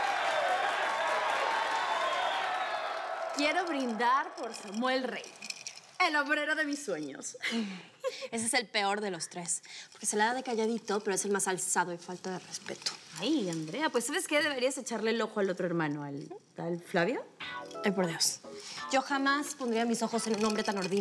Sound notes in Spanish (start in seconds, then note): 0.0 gritos y exclamaciones; 7.4 risas